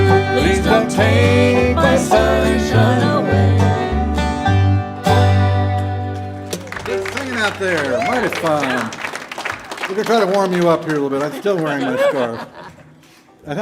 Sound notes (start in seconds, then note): 6.3 audience applauding